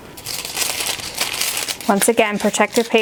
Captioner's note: paper rustling